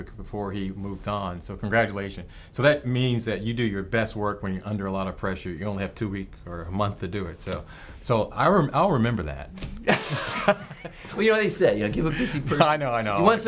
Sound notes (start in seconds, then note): 9.7 both laugh